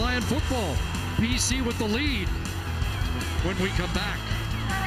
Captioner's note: crowd Booing